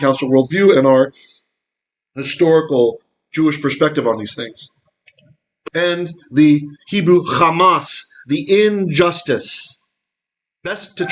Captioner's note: Hebrew